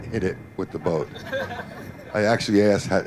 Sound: laughter

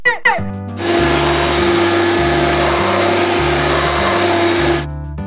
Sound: vacuum cleaner whooshing

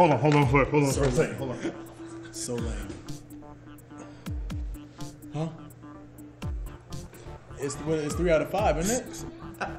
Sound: laugh

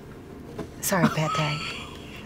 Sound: laughter

